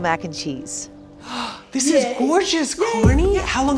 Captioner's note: gasps